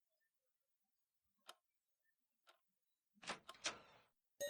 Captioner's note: clock ticking